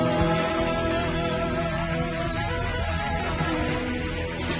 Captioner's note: audience applauding